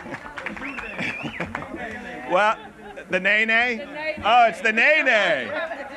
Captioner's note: laughter